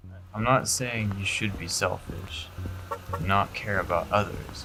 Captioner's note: car honking